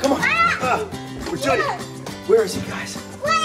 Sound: kid yelling

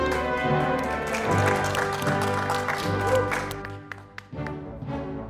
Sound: audience applauding

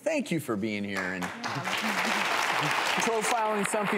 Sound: audience applause

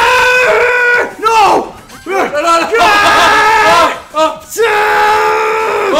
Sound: laugh

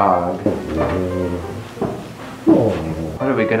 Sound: growling

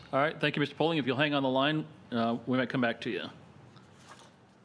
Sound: choppy audio

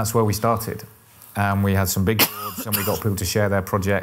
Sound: cough in background

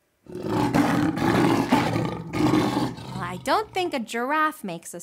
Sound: lion roars

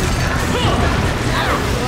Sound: groaning

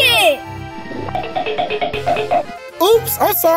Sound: galloping sound effect

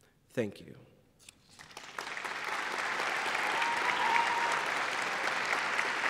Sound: applause

